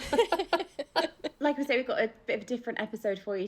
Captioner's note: laughing